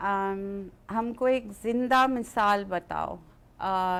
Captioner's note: speaks in another language